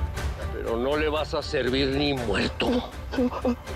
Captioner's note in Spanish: Sollozos